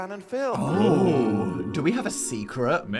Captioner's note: both exclaiming